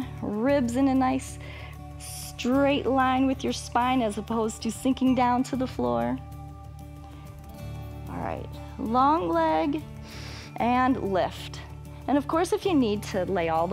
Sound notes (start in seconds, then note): 10.0 inhales